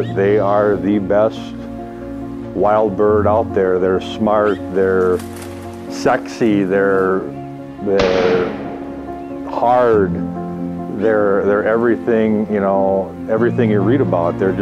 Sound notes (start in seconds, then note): 8.0 gun shot